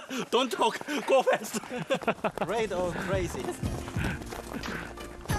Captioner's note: laugh